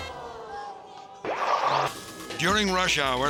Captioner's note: logo whooshes